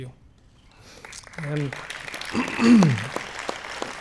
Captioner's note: applause